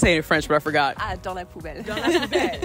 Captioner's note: speaking French